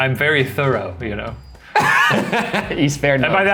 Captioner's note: laughs